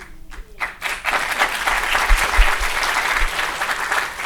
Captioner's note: people clapping